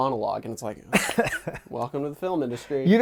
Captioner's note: chuckles